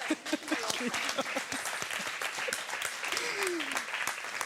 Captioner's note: applause